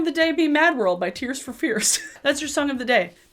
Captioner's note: laughing